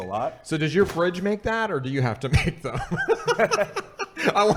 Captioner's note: laughing